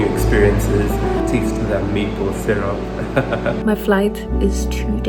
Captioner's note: laughs